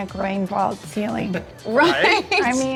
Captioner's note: laughs